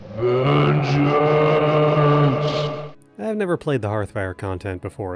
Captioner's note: Vengeful scream from across the Iliac Bay